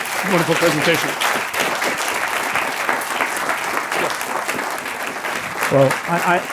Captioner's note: applause